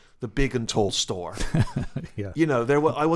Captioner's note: laughter